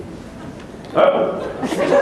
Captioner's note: laughter